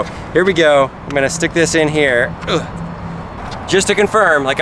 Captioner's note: grunts